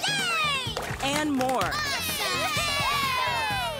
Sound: cheering

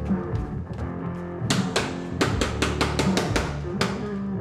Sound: hard rock continues; banging on door

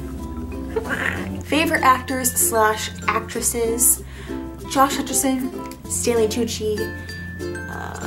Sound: weird mouth noise

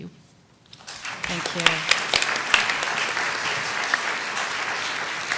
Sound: applause

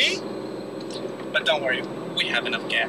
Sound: movie mobile engine roaring

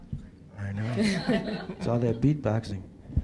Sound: laughter

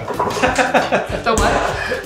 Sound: laughs

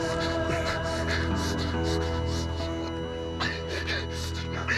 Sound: continues panting

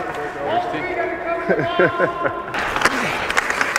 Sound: laughs

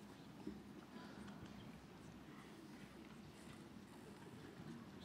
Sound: none

